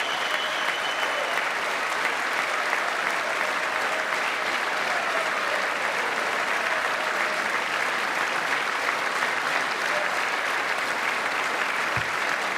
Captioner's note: applause